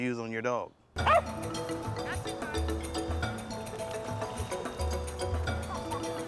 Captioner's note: marimba music; bark